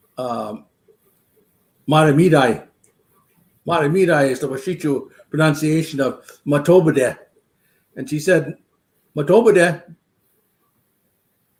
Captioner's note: speaking Dakota